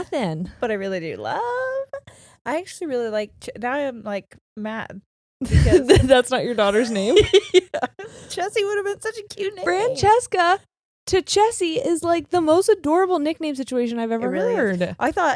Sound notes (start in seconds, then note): 6.6 laughing